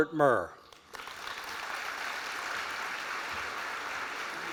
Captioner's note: applause